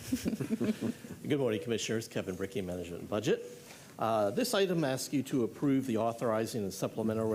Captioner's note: laughter